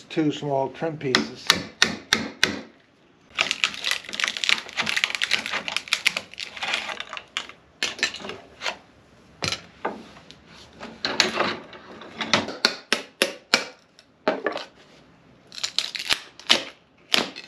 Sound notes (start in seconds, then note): 12.4 hammering